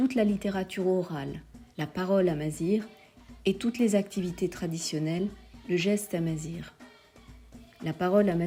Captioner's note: Amazigh speech